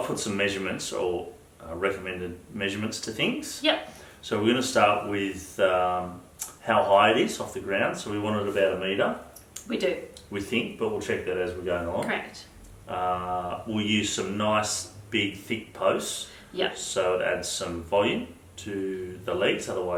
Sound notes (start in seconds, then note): none